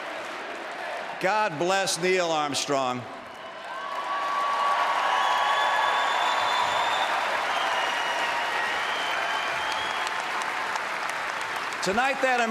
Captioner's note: applause